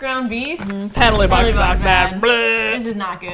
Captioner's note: buzzer sound